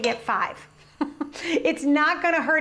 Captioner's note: chuckling